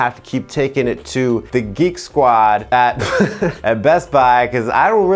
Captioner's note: chuckles